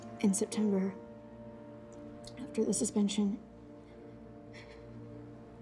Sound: sniffles

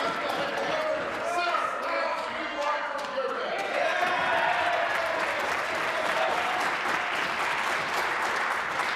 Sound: voice trailing

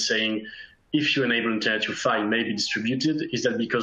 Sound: faintly speaking

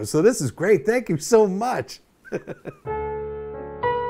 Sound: laughs

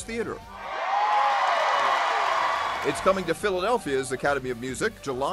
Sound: cheers and applause

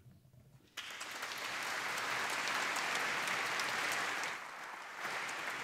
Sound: applause

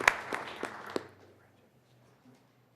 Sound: applause

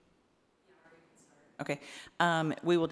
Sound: woman speaking faintly

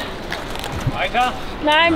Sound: speaking foreign language

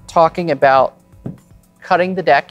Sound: taps cards

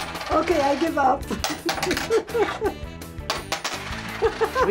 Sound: laughs

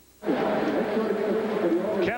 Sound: ambient stadium noise

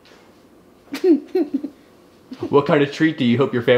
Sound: laughing

